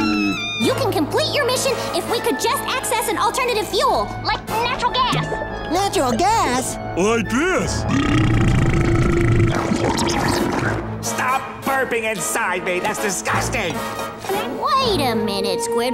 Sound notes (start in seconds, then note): 7.8 burping